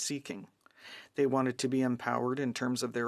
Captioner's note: speaking french